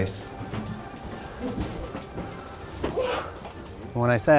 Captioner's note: footsteps